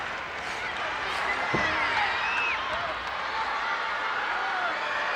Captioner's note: crowd cheering